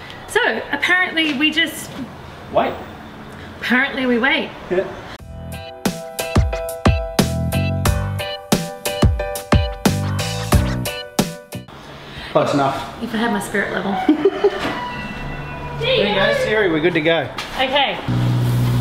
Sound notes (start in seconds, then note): 5.2 upbeat music; 13.7 laughs